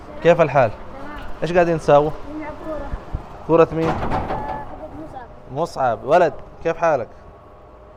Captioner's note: Arabic